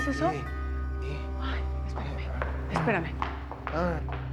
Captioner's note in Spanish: Timbre de la puerta